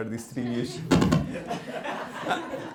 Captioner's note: laughter